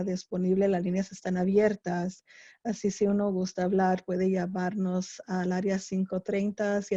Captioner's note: spanish